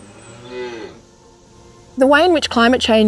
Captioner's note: cow moos